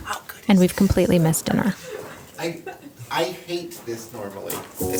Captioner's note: sounds of laughing